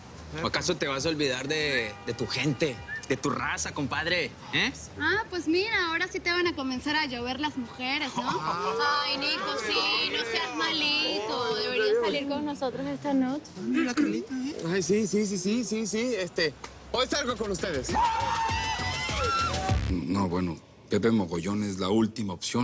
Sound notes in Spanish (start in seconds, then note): 17.8 Gritos y exclamaciones